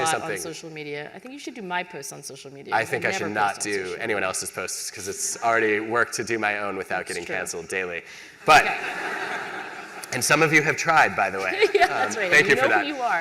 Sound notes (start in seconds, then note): 8.5 laughter